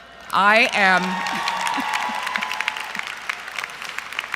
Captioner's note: crowd Cheering & Chuckling; crowd Cheering